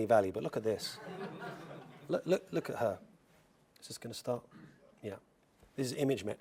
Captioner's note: laugh